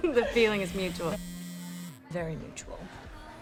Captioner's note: phone buzzing